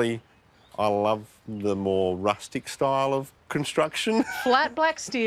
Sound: laughs

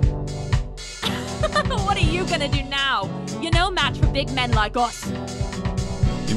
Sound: laughing

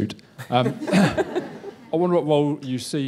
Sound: laughter

